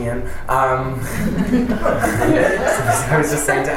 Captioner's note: laughter